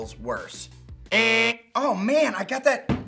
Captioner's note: buzzer sound